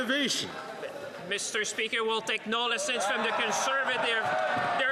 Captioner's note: some Applause